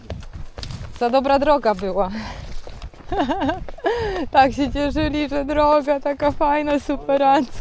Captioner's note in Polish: śmiech